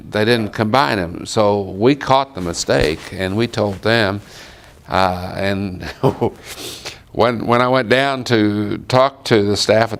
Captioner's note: chuckle